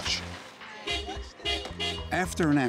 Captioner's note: honking horn